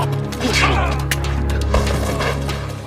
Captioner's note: grunting